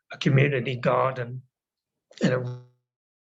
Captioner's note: audio cuts